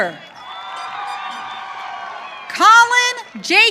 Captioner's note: audience cheering